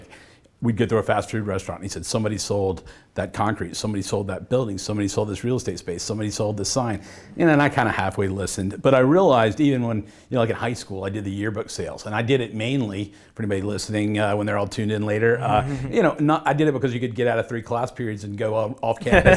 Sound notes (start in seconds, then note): 15.4 laughs